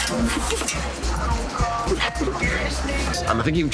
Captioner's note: laughs